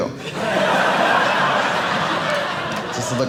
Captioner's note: audience laughing